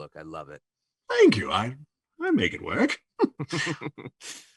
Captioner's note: laughs